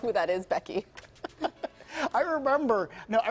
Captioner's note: laughter